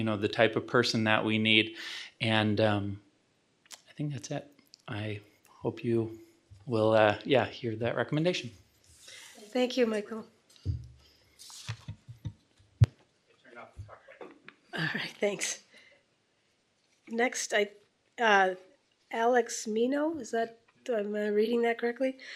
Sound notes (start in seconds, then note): 12.7 microphone clicks off; 15.4 chuckles